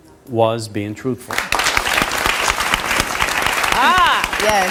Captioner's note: audience applauds